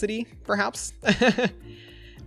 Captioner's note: laughs